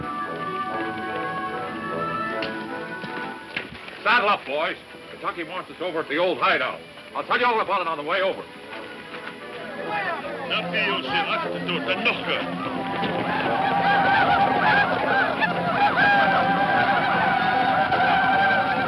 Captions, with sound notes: - Saddle up boys. Kentucky wants over at the old hide out. I'll tell you all about it on the way over. (speaking in foreign language) (shouting) (hooves thumping)